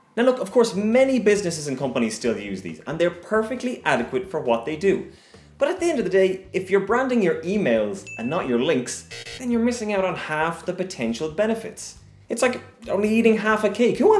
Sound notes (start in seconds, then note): 8.0 ding; 9.1 buzz